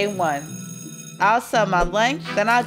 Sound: school bell rings

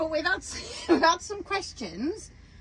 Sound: laughing

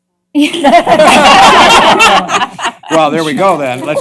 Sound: laughter

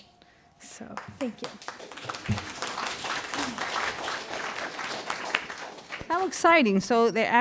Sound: audience applauding

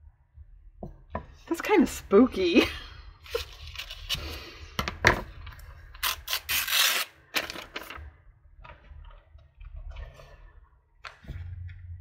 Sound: laughs

